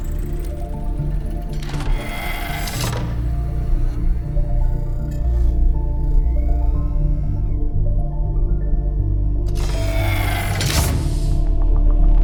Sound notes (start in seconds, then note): 0.0 heavy door closing; 4.2 swirling electrical hum; 6.4 servos working; 9.4 airtight door seals; 9.5 air compressing